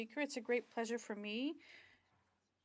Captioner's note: speaking French